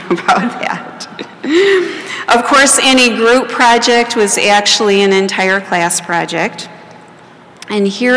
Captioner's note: laughter